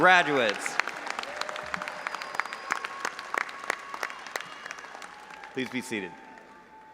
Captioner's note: audience applauding and cheering